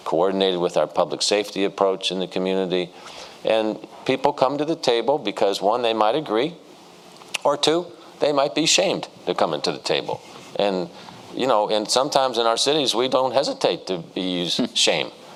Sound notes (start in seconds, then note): none